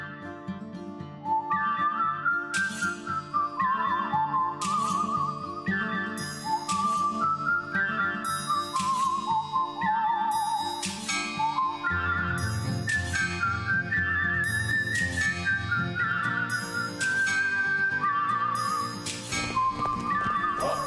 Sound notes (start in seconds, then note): 6.8 whistling; 10.9 chanting